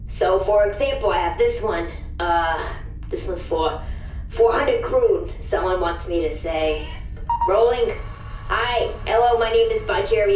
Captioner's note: beeps